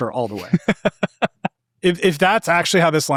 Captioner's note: laughing